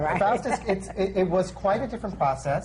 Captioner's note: laughs